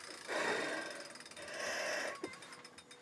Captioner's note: breathes heavily; bicycle whirring slows